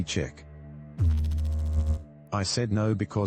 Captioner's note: electrical noise